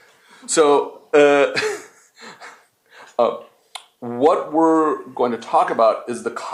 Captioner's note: laughs